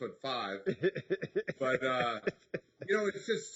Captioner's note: laughing